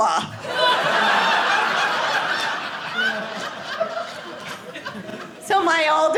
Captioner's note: audience laughing